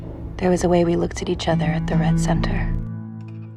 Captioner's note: voiceover